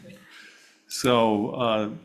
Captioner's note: everyone chuckles